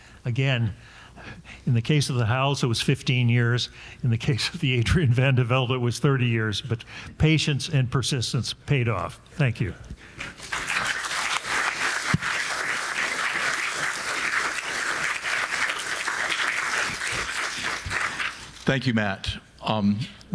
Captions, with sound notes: So again, in the case of the Hals, it was 15 years. In the case of the Adriaen van de Velde was 30 years. But patience and persistence paid off. Thank you. (audience applauding) - Thank you Matt.